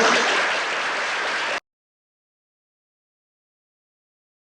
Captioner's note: applause